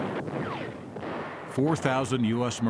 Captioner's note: explosions booming